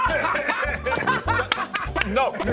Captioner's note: easily amused laughter